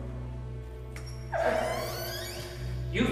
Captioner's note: trap door creaking